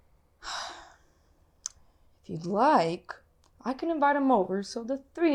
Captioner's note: sighs